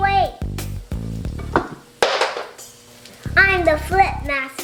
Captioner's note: spatula thudding